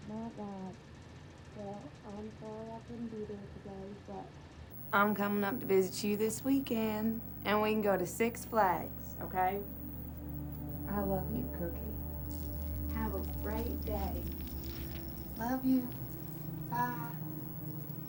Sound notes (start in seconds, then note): 13.6 beads rattling